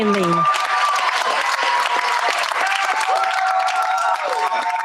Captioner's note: cheers, applause